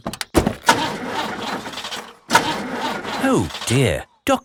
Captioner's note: engine sputtering